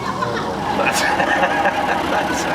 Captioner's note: laughs